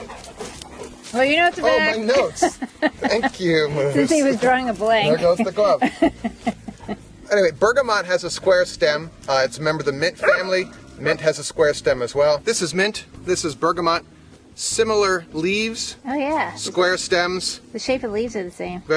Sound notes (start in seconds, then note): 1.8 laughs; 5.0 woman laughs